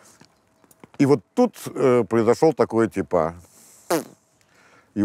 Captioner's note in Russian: звук пердежа